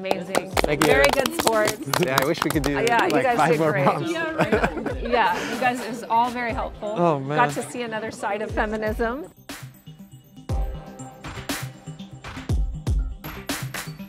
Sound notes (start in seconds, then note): 0.0 clapping; 10.2 dark techno music